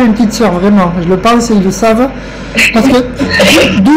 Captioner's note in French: rire